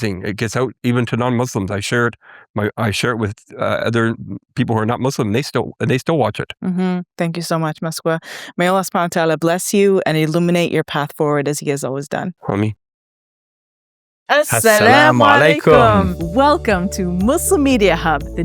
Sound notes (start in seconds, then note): 12.7 speaking foreign language; 14.5 both speaking foreign language